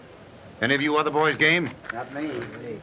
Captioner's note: murmur of refusals